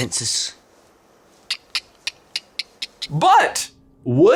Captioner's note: clicks